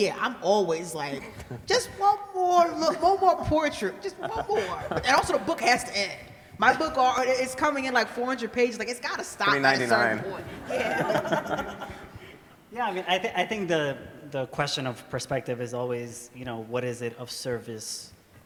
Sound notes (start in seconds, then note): 4.0 laughter; 10.2 everybody laughs